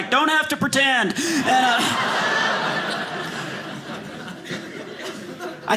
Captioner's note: audience laughing